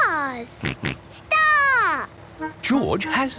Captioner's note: snort